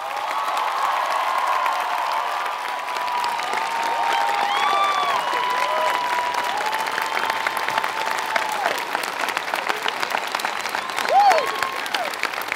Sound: applause

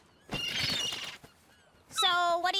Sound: birds squawk

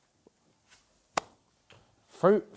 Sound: claps

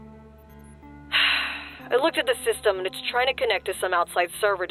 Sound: sigh

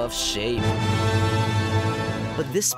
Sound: dah-dah! sound effect

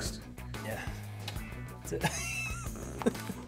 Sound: laugh

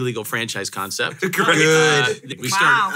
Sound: crowd murmurs

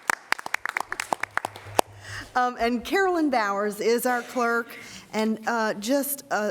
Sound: applause

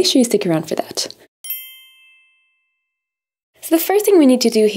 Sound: bell chimes

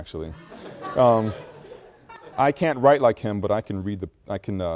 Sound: students laugh

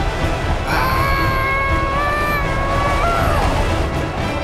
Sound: groaning

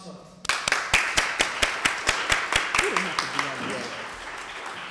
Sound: applause

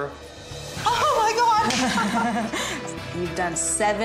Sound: laughs

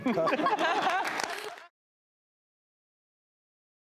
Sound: all laughing

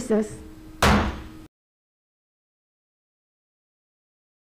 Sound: gavel banging

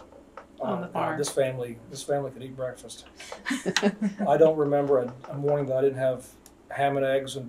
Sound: laughter

